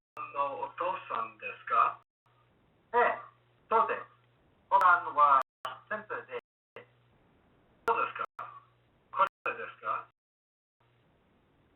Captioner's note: japanese Spoken